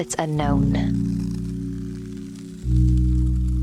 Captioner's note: fire crackles